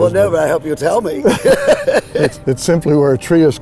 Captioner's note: laughing